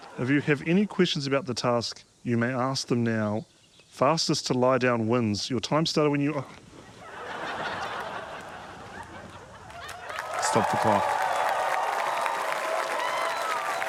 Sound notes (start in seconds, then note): 7.0 audience laughs; 9.6 cheering, applause